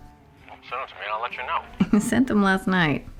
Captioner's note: hawk on phone